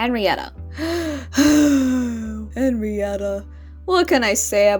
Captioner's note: siiiigh